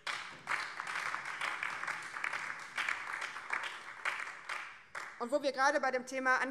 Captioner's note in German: Beifall BÜNDNIS 90/DIE GRÜNEN